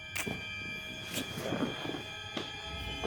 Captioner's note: fabric creaks; shoes stepping